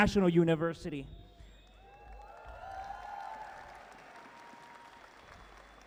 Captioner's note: audience cheering